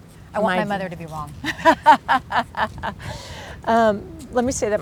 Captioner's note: laughs